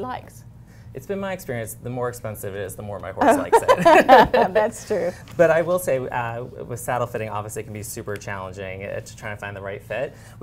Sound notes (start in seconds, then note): 3.3 laughter